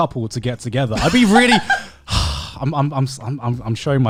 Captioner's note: exhales deeply